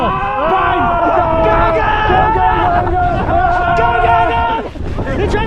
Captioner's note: war screams